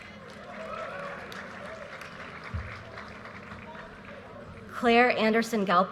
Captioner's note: audience cheers and applause